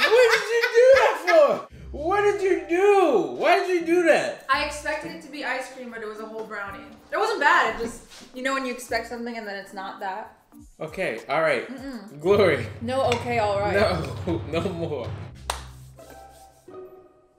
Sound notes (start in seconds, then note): 15.4 claps